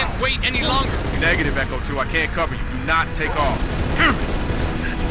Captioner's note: radio